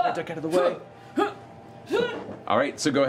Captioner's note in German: geräuschvolle Bewegungen